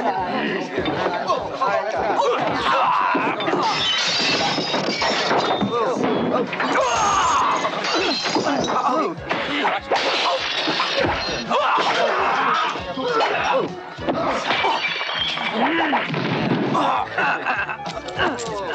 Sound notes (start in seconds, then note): 0.6 men fighting; 3.2 glass crashing; 8.8 men exclaiming